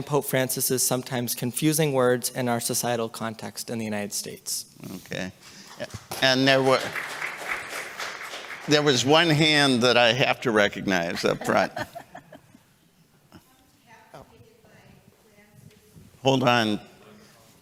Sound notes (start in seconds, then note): 7.3 applause